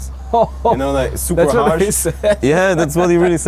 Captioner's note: laughs